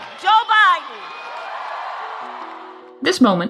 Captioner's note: cheering